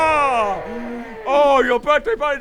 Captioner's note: crispy mammoth noises